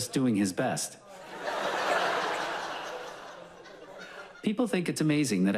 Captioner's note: audience laughs